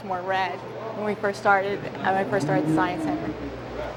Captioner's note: train whistle blows